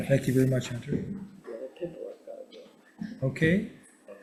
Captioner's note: faintly speaking